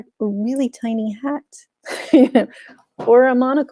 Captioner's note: chuckles